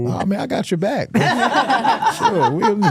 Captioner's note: hosts laughing